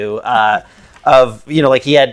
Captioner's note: laughs